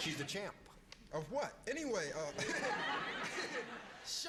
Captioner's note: laughs